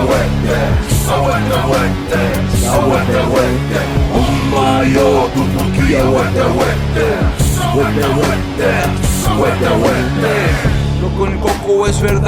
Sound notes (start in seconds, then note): 0.0 non-english speech